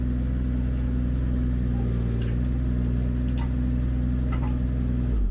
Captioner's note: machine drilling